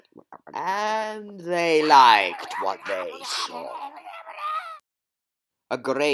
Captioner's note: Incoherent Wellsian Screeching